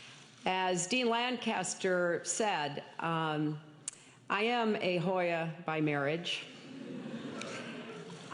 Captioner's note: laughter